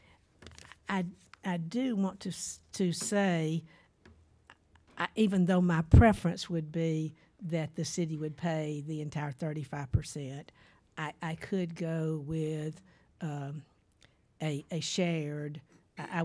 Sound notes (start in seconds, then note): none